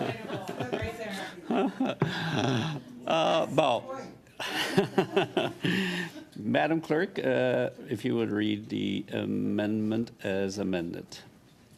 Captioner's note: laughter